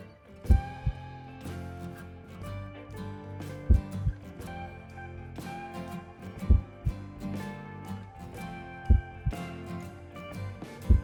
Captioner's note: heartbeats accelerating